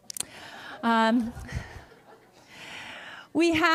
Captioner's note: laughter